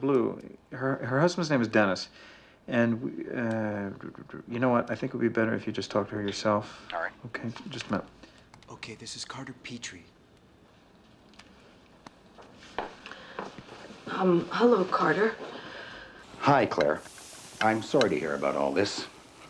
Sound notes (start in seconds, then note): 6.8 on phone